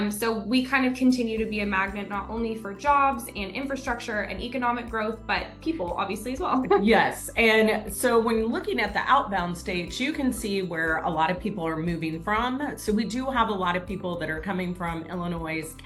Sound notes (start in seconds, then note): 6.6 laughs